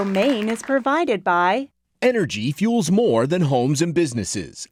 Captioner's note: voiceover